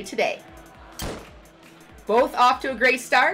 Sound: starting pistol goes off

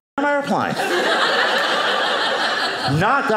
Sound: audience laughing

